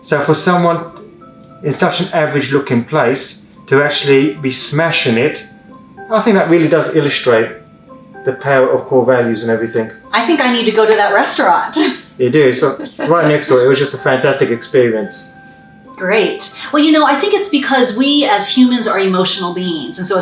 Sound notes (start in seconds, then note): 12.5 laughs